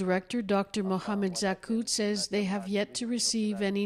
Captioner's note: speaking alternate language